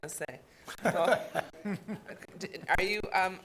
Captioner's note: people laughing